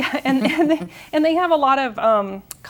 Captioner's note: chuckles